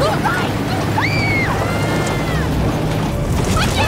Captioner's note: Jessica Screams